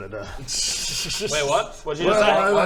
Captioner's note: suspicious laughter